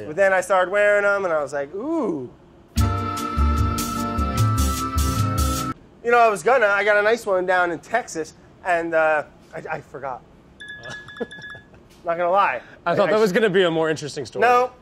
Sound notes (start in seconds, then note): 2.7 smooth melody; 10.8 laughs